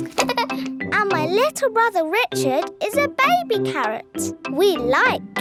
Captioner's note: giggles